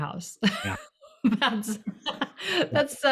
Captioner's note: laugh